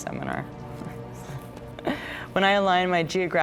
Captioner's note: laughs